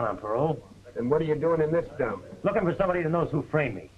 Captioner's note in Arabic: بصوت خافت